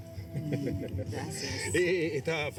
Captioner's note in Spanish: risas